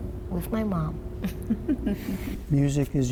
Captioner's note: laughter